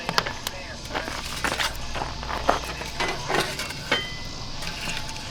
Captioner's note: grill clanking